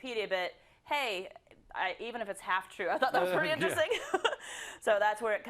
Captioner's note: laugh